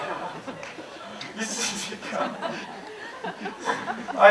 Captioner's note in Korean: 웃음